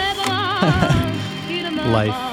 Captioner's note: chuckle